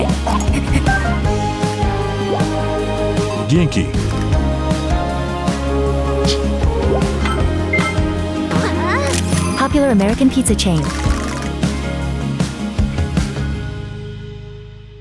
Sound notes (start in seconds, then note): 6.2 Imposter SFX; 7.2 Zelda selection SFX